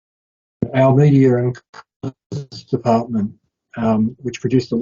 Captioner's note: audio distorting